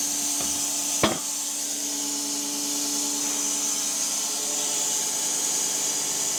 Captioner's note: wood clanging; log saw whirring